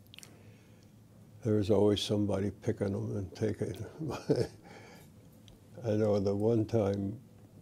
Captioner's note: laughter